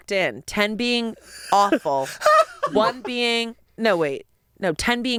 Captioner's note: laughing